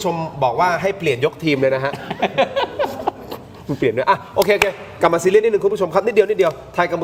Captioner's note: laughs